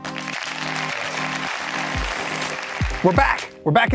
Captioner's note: crowd applauses